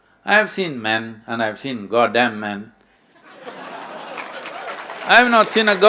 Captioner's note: laughter/Applause